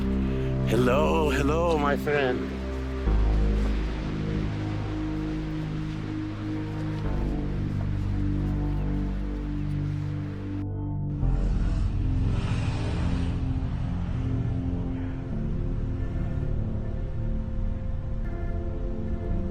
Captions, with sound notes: Hello. Hello, my friend. [roaring Pacific ocean] [ominous electronic music]